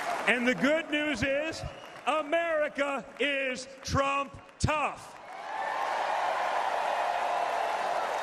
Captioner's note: applause